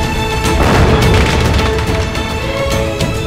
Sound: crackers bursting

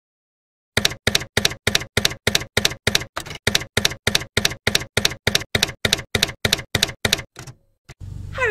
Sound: typewriter keys clacking

